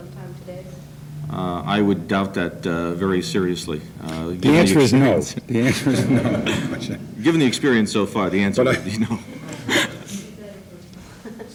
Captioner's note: laughs